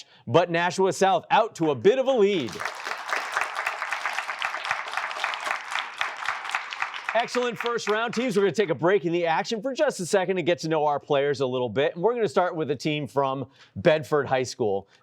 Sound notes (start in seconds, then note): 2.3 applause